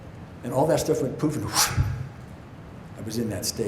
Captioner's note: whooshes